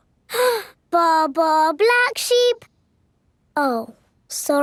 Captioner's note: inhales